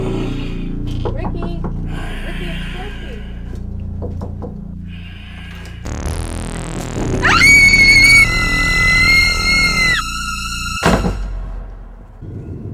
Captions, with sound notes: Ricky? Ricky, it's Josie. (knocking on the door) (Josie screams) (terror-stricken music)